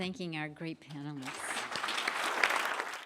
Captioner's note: applause